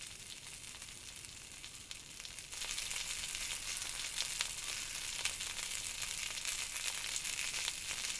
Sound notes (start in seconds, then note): 2.8 sausages sizzling